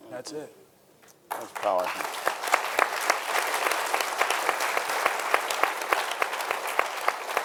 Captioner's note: audience applauding